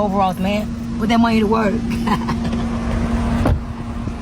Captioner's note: laughs; car door slams